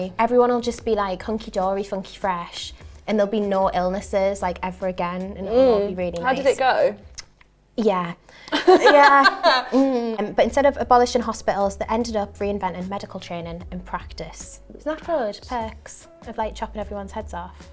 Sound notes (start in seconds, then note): 8.5 laughs